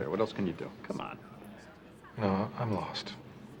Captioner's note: none